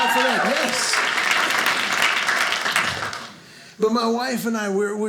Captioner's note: audience applauding